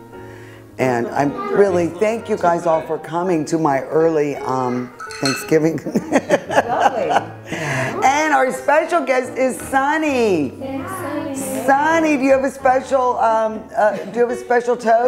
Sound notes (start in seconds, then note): 5.7 chuckles